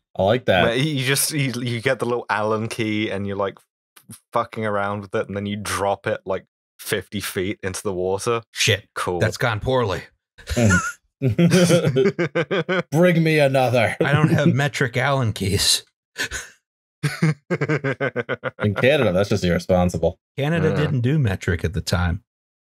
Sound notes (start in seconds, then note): 11.2 laughter; 17.0 laughter